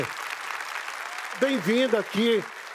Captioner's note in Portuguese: aplausos